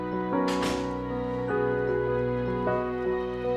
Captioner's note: door Opening